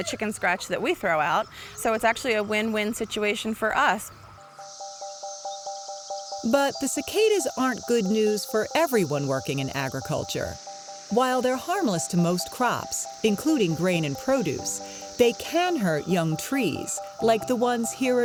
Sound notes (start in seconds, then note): 5.0 cicada sounds